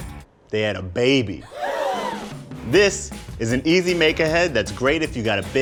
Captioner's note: cheering